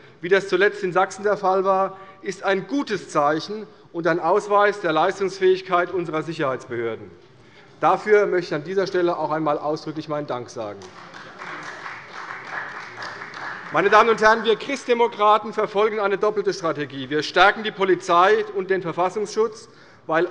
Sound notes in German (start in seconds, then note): 10.7 Beifall bei Abgeordneten der CDU